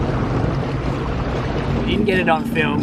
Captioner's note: dinghy engine roaring